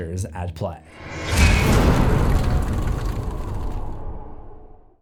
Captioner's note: impact